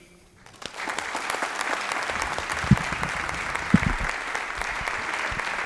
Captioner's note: applause